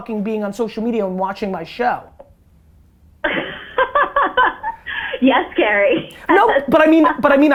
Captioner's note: laughs